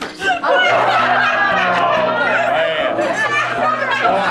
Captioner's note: guests laughing